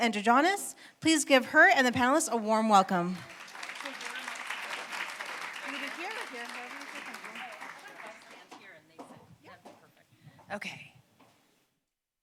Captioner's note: applause